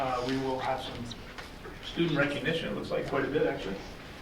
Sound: none

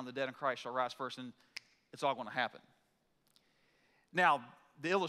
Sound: snaps fingers

